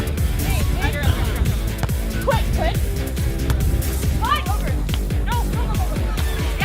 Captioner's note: crowd cheering; energetic music; teammates yelling indistinguishably to one another